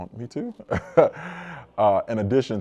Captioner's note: laughs